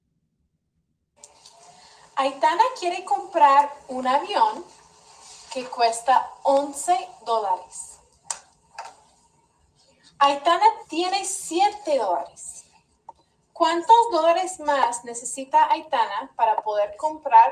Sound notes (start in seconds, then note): 2.5 teacher speaking Spanish